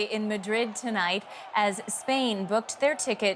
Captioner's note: cheering